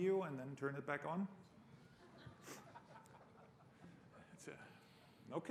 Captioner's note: laughter